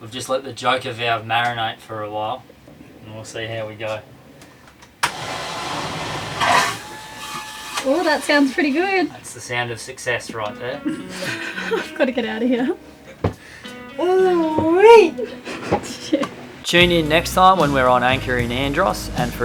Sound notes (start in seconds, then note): 5.0 flushing; 13.3 soft guitar music